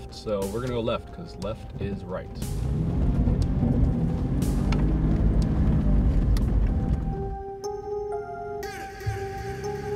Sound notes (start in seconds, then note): 2.2 vehicle engine roaring; 7.1 upbeat music